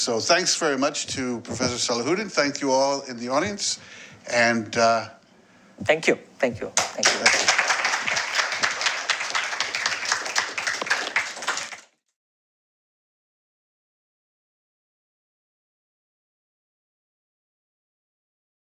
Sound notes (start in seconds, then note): 6.7 applause